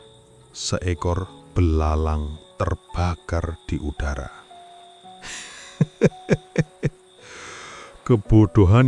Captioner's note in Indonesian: tertawa